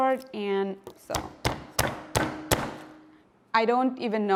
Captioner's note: pounding garlic